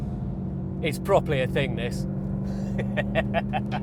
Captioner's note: laughs